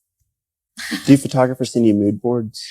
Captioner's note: laughing